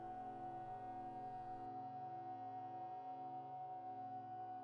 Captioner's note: tone continues reverberating